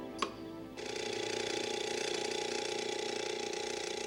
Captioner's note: alarm buzzing